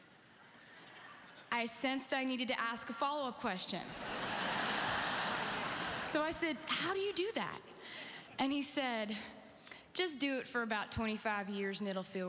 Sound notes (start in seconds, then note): 3.9 audience laughing